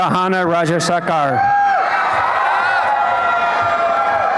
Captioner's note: applause and cheering